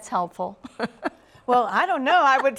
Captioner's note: laughs